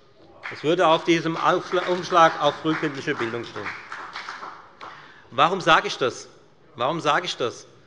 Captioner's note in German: Beifall bei der FDP